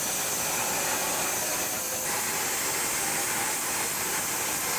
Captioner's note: saw humming continues